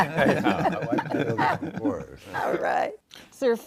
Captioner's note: all laughing